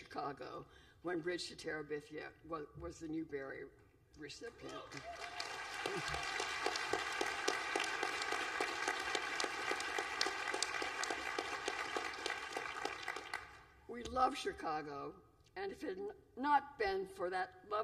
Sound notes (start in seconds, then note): 4.6 applause